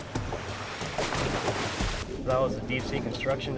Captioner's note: water splashes